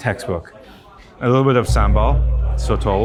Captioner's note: people chatter